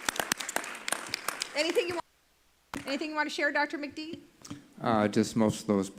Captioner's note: applause